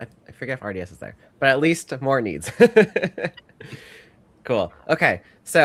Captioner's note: laughs